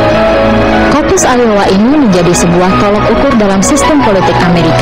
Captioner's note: speaking indonesian